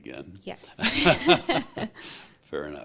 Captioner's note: both laugh